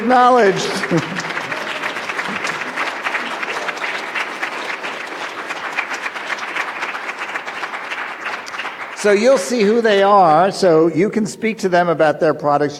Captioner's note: applause